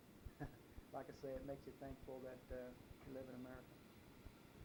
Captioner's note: chuckles